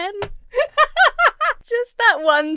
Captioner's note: Emma laughs